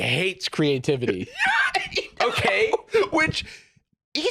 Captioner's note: laughs; laughing